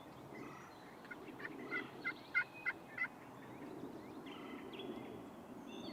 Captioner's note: multiple turkey calls